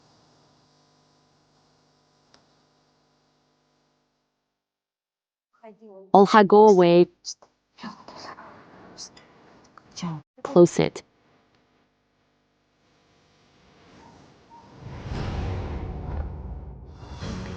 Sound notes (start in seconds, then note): 10.9 silence